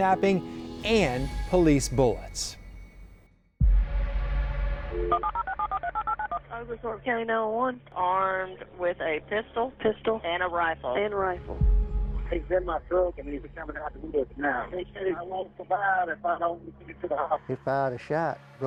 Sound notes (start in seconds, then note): 3.8 suspenseful music; 5.0 phone dialing